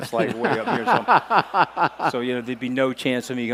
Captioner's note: laughing